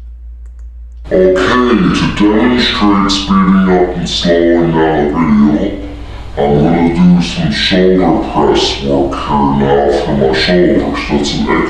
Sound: video slowed down and the pitch of the voice is lower

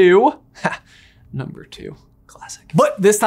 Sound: chuckles

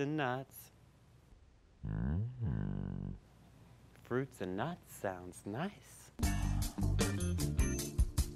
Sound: deeper voice

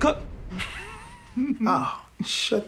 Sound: laughs

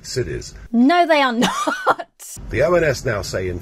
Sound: laughs

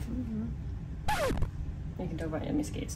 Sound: zipper sound

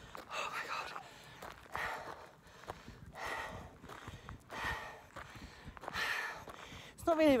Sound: breathing heavily

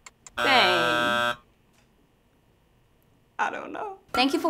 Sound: buzzer sounds

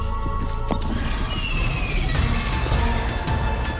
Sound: roars

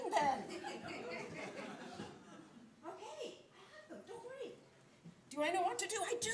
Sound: laughter from audience

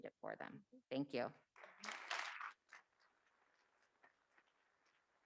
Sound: audience clapping

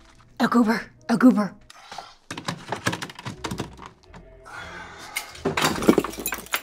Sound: woman speaking in a foreign language; vial clinking

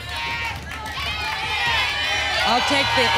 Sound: audience shouting letters

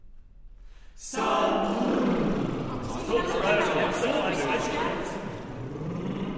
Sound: lip trill

